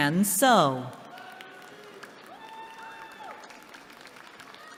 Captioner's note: applause